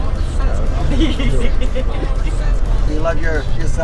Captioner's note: woman laughing